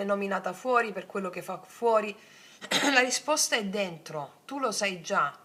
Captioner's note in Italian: schiarire la voce